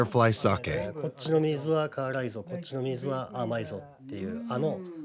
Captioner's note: speaking Japanese